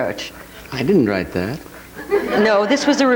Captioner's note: audience laughing